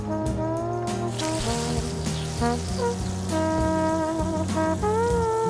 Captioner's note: blood spraying